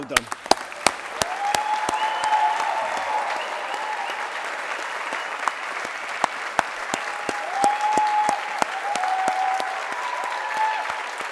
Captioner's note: applause